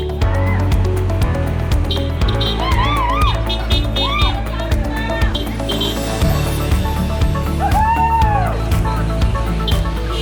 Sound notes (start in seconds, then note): 2.4 crowd cheering; 9.9 horns honking